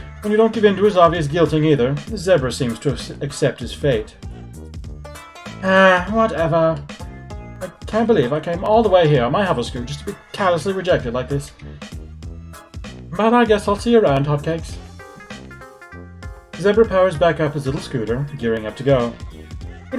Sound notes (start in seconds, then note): 6.2 sighs